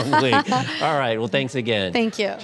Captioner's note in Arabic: كلاهما يضحك